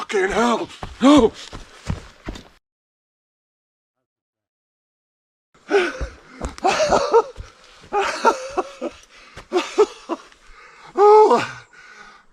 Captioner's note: laughter